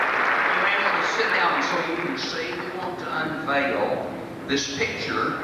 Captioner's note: applause